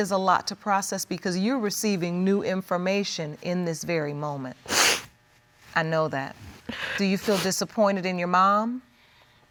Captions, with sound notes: And it really is a lot to process, because you're receiving new information in this very moment. (SNIFFLES) I know that. Do you feel disappointed in your mom?